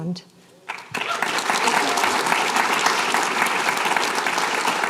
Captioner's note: applause